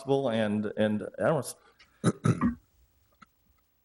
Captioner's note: clears throat